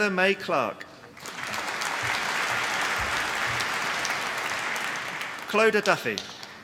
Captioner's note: applause